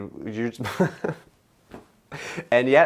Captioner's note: chuckling